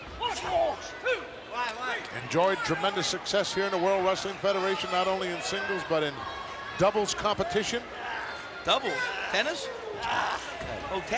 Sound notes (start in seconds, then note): none